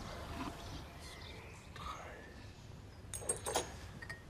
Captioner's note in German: flüstert